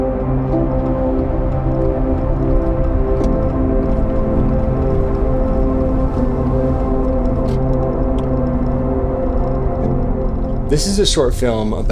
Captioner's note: wind blowing